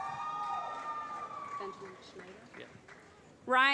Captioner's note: applause